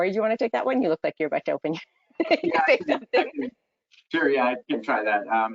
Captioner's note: laughs